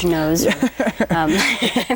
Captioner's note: both laugh